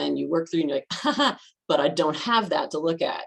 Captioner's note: laughs